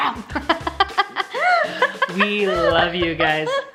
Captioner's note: laughing